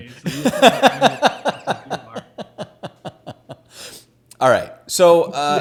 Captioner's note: laughs